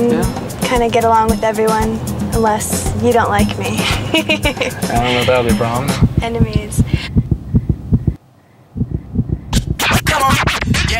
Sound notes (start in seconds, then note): 3.6 laughs